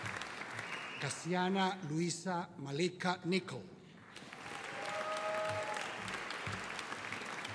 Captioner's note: audience cheering